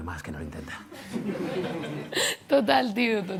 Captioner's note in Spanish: Risas